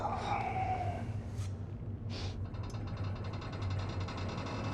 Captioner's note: ship creaking